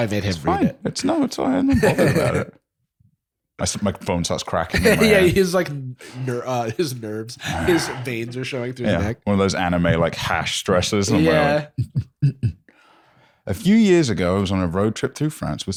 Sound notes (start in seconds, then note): 11.8 heartbeat noise